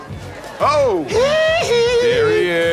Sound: cheering

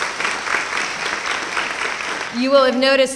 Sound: applause

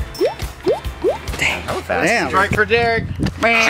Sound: whispers

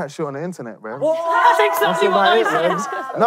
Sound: yelling

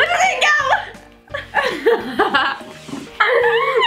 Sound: laughs

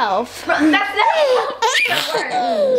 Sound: baby squeals

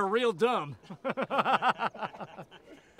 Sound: uncomfortable laughing

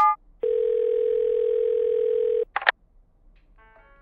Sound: phone ringing

